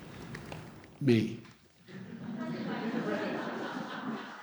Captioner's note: laughter